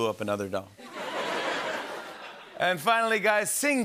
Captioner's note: laughter